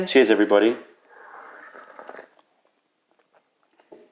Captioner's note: sips tea